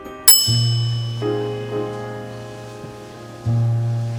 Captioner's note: bell dings